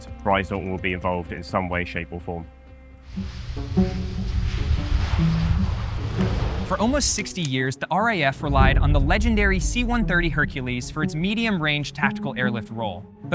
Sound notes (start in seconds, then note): 3.2 plane engine rumbling